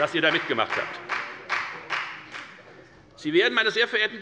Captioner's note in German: Beifall bei der FDP